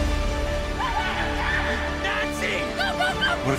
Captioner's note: dramatic music; screaming